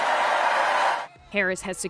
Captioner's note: cheering